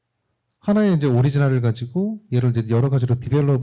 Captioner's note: speaking korean